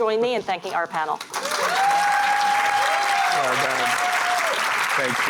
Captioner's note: applauding